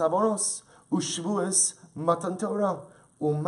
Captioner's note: Hebrew